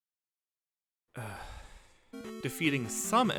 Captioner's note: sigh